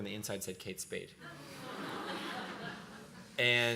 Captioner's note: laughing